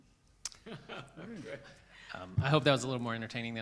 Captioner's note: laughs